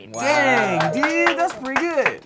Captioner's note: cheering